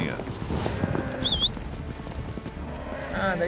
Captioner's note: whistling, cows mooing